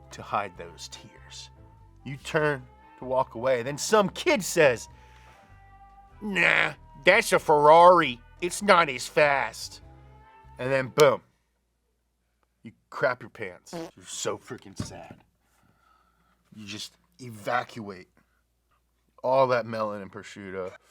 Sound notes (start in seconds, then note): 13.8 break winds